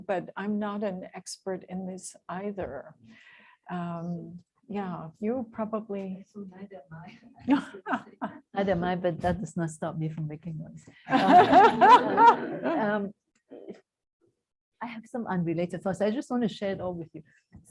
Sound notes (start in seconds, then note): 7.4 laughs; 11.0 laughter